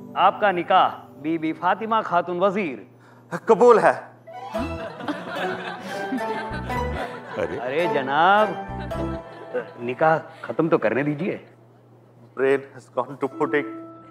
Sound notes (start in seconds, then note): 4.6 All laughing